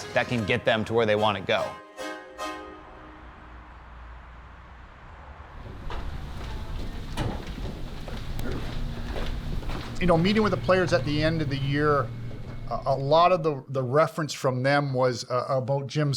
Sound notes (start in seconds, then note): 1.8 upbeat music; 5.7 footsteps tapping